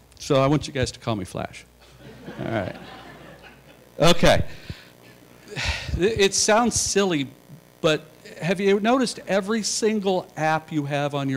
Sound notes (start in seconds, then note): 1.8 laughter